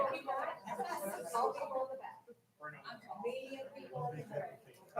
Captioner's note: people chattering